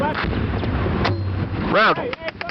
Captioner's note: launcher clanks